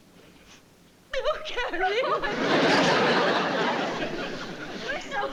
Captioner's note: crying